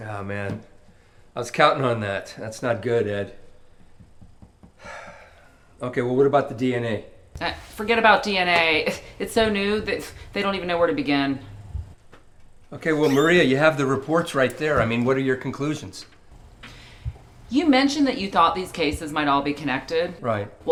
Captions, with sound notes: - Ah, man. I was countin' on that. That's not good, Ed. (taps finger) (sighs loudly) Okay, well what about the DNA? - Forget about DNA. It's so new that they don't even know where to begin. - Okay, well, Maria, you have the reports right there. I mean, what are your conclusions? - You mentioned that you thought these cases might all be connected? - Right.